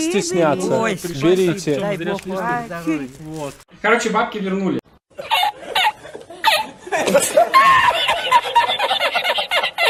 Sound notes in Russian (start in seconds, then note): 5.2 смеётся хриплым голосом